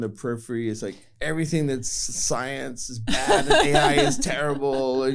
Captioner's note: laughter